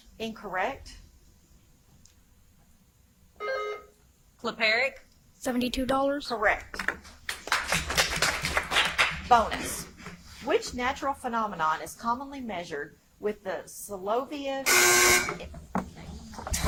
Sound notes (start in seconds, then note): 3.4 buzzer chimes; 7.2 audience applauds; 14.6 loud buzzer buzzes